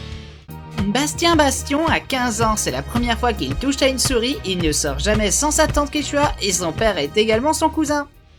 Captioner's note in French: Voix d'émission télé